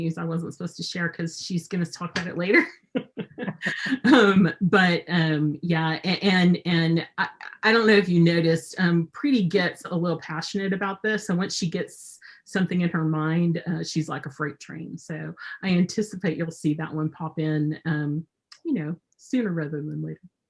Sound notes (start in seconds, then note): 2.8 laughs